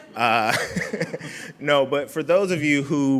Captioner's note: laughing